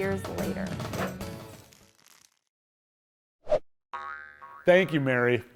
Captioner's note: animation whooshing